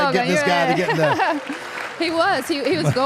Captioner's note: Michelle laughs